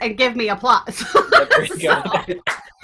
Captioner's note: laughs; applause